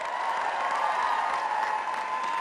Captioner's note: audience applause